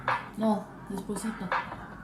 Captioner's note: confused